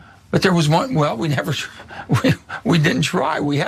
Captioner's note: laugh